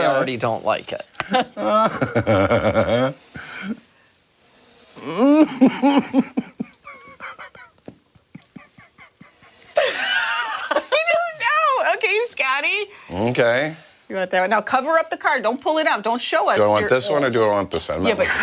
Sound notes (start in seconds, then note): 6.1 laughter